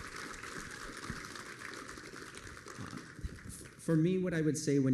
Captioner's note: applause